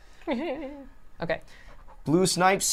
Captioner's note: chuckling